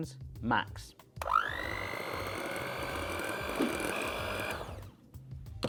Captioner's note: electronic mixer whirling